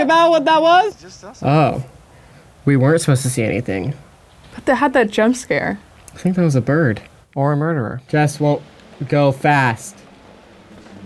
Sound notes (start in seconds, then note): none